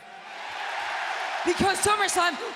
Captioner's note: audience cheering